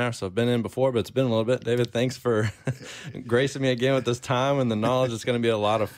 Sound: chuckles

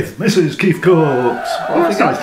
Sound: cheering

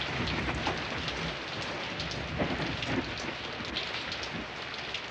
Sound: thunder blasting; rain pounding

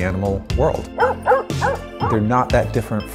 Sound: dog barks

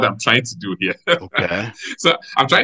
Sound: laughs

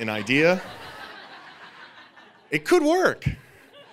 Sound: audience laughing

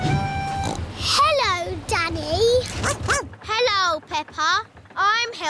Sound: snorts; barks

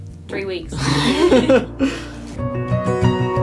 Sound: laughs; calm music

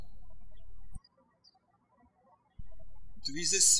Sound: birds chirping

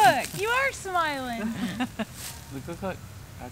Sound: laughing

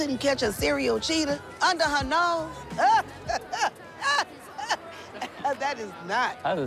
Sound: laughs

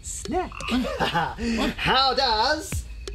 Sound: Archibald chuckles

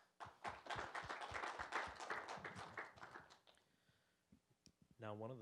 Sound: applause

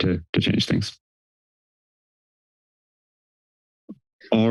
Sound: pause

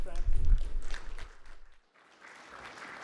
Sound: applause

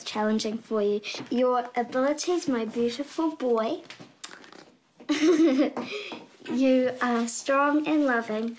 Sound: tuts, giggles

